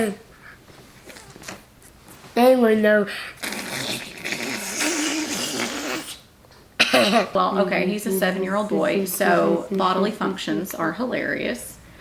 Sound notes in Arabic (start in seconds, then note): 1.6 اصوات تخرج من انفه